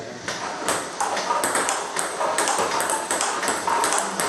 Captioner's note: ball ping pong hitting